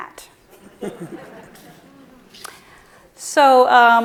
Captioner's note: audience laughs